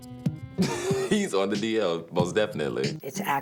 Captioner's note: laughs